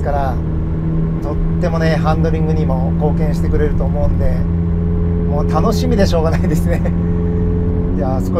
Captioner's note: laughs